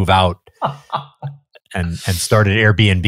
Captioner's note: laughs